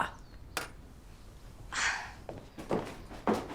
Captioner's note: scoffs